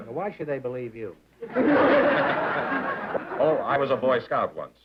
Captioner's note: laughter